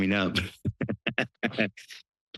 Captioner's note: chuckles